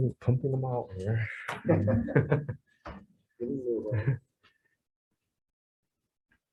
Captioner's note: group laughs